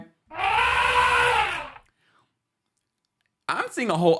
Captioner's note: elephant trumpeting